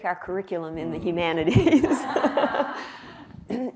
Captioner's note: laughter